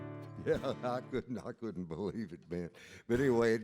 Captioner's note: laughs